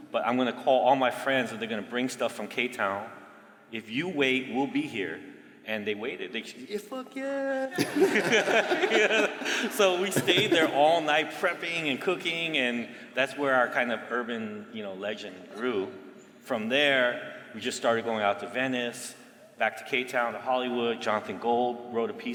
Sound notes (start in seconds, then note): 7.7 laughter